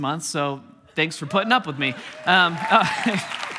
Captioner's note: congregation cheering; congregation applauding; chuckling